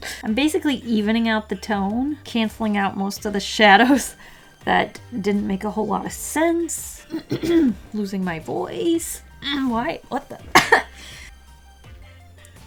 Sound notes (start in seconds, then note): 7.1 cough; 10.5 coughs